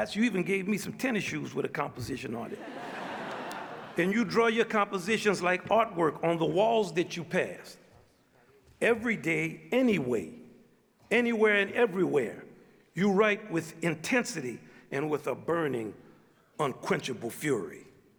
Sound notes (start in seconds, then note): 2.5 audience laughs